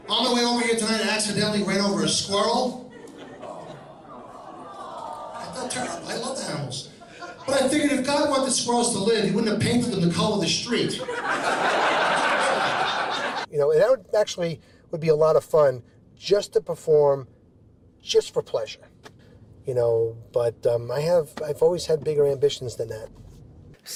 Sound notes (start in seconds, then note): 10.9 audience laughing